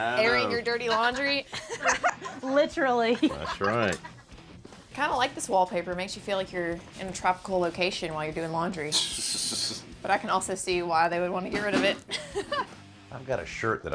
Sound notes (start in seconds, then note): 0.7 laughter; 8.9 laughs; 12.1 laughs